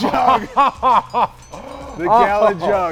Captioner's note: laughs